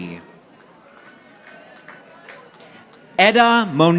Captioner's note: audience applauding